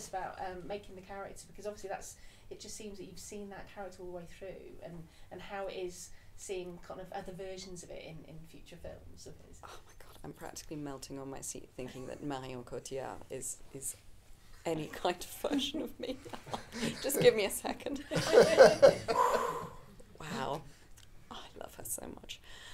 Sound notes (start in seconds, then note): 18.1 audience laughing